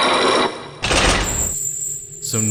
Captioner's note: chains grinding!; locks sealing!